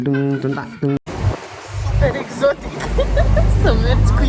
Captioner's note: hysterical laughter